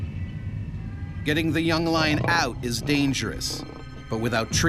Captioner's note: voiceover